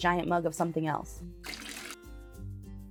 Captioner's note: liquid pouring